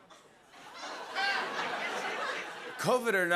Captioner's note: laughter